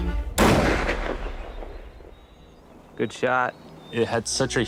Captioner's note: gunshot